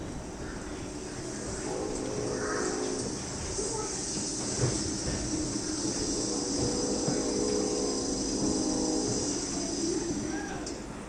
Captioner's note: car pulls in offstage